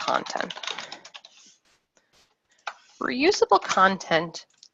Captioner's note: keyboard keys clacking